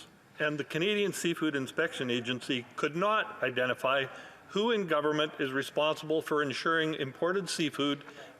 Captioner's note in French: voix de l'interprète